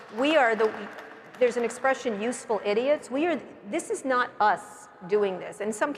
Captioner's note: applause